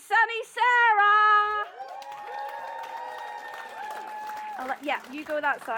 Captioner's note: cheering